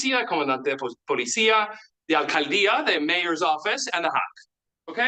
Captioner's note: speaks in Spanish